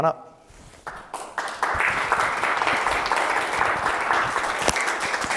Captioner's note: applause